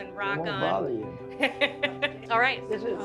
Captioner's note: laughs